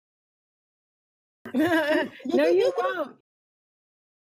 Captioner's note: chuckles; laughs